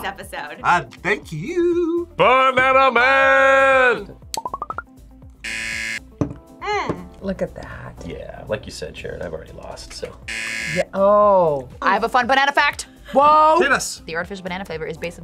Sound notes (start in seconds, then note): 5.4 buzzer; 10.2 buzzer